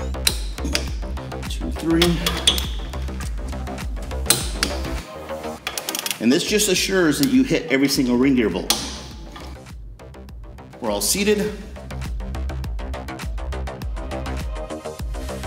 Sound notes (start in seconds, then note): 0.0 torque clicks; 4.2 torque clicks; 12.1 background music